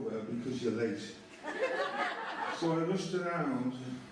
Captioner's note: laughter